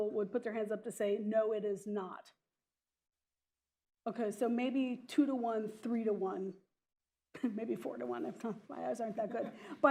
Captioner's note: laughs; laughter